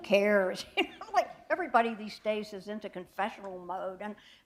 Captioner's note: chuckle